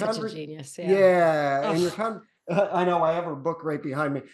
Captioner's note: exclaims